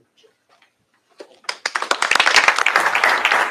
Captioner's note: applause